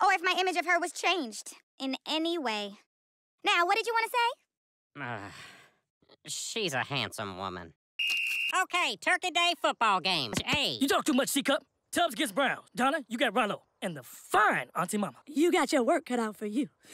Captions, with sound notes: or if my image of her was changed in any way. Now, what did you wanna say? Ughh.. She's a handsome woman. *sports whistle* OK, Turkey Day football game! Hey- You talk too much, C Cup. Tubbs against Brown. Donna- you got Rallo and the FINE auntie mama. You got your work cut out for you.